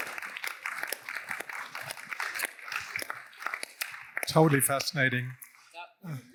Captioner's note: applause